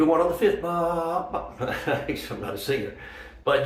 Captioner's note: chuckles